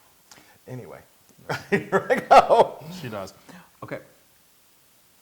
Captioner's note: laugh